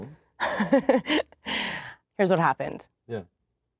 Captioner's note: laughs